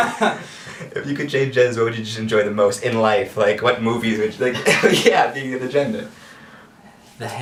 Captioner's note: sarcastically